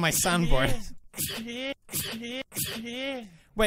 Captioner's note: same sneeze